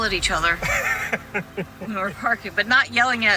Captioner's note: laughs